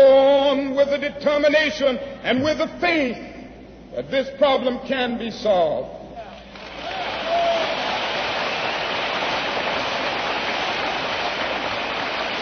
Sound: applause

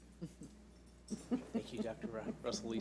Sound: laughs

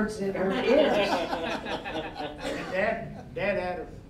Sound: all laughing

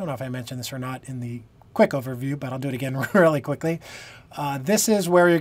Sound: laughter

